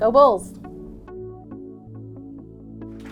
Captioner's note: applause